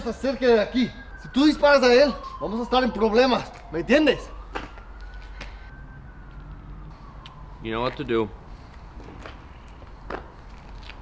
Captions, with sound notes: (sirens blaring) - You know what to do.